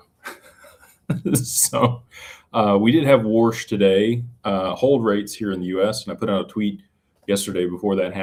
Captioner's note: laughter